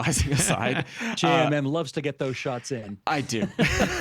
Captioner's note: laughing